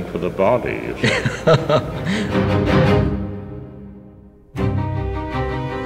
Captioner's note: laughs; spooky orchestral music